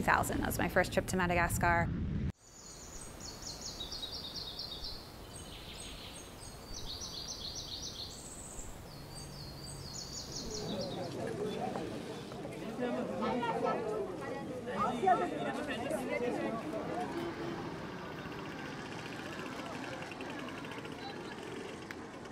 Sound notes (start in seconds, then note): 6.3 sound of birds and people at the marketplace